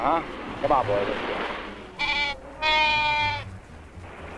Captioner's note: Pete baaing